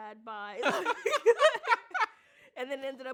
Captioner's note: laughs